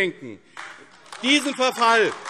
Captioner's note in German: Beifall AfD